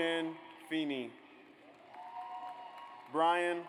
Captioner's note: audience applauds